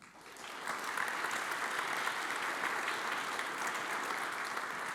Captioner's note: audience applauds